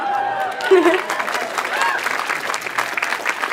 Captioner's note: audience cheers; laughs; audience applauds